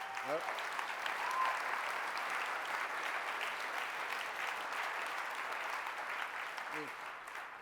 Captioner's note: applause